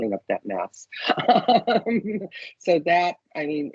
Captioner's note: laughing